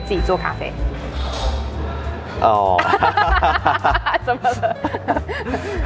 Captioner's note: laugh